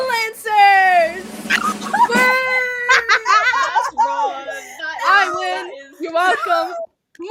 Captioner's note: laughter